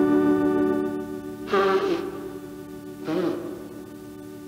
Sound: sniffling, blowing nose

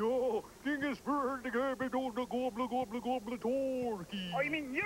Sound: speaking swedish

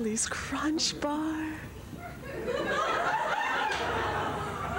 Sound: laughter

